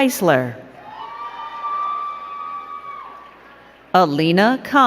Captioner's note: crowd cheering and clapping